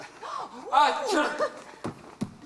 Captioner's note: statue sneezes